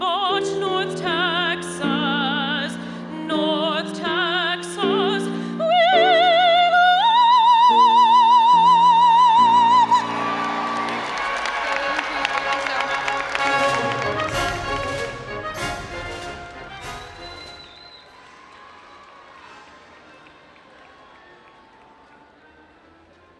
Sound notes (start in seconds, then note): 10.3 all applauding and cheering; 13.6 instrumental music